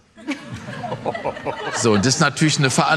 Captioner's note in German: Gelächter